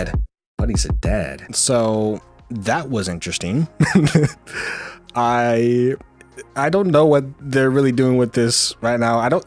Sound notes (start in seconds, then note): 3.8 laughs